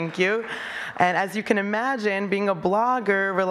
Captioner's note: applause